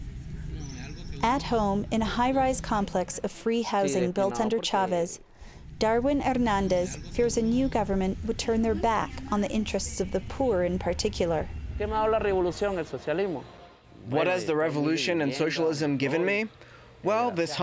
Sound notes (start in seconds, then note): 13.3 through translator